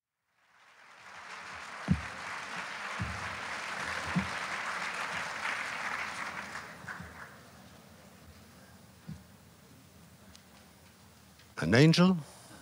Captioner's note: applause